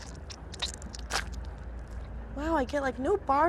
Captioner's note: squelching